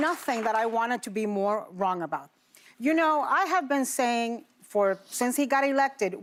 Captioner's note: applause